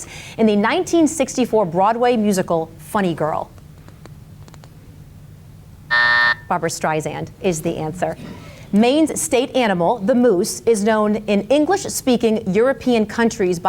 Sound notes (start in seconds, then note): 5.8 timer buzzes